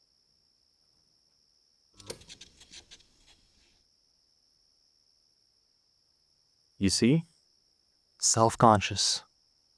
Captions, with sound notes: [cassette stops playing] [insects buzzing] You see? Self-conscious.